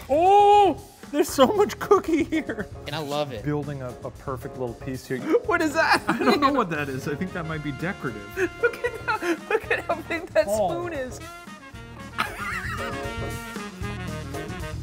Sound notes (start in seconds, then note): 8.3 laughs; 12.0 upbeat music